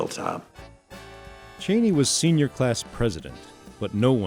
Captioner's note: voiceover